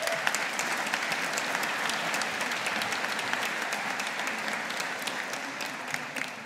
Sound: audience applauding

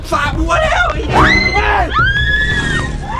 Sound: screaming continues; screams

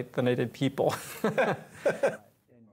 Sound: laughter

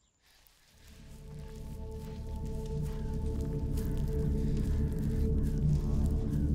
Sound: suspenseful music; crows cawing

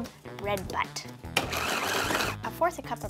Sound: blender whirring

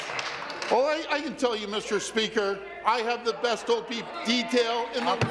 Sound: applause

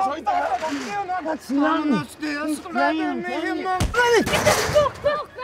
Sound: all yelling and arguing; John hitting the wall

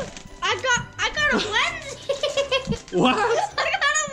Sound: gasps; laughs

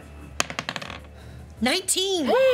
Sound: clatters; cheering

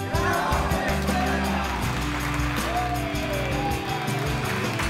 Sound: group shouting and clapping

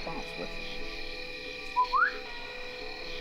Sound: whistles

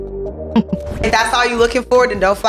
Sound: laughs

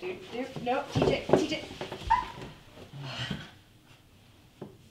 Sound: Tara shrieks

